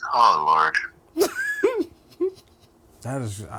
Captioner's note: laughing